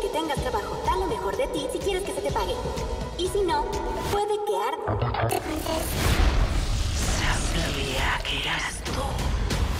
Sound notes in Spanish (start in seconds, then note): 5.1 voz distorsionada